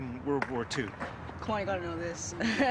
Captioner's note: voiceover